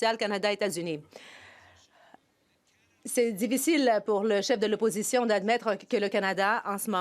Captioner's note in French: voix de l'interprète